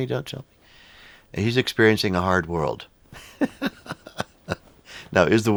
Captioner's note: laughs